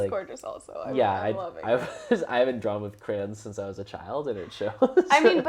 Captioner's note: laughs